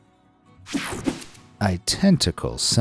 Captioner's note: air whooshing